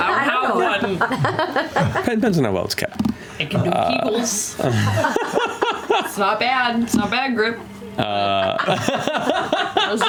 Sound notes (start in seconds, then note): 0.8 laughs; 4.6 laughter; 8.2 laughter